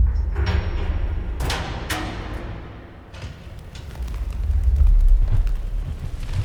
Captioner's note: metal clanking; wings rustling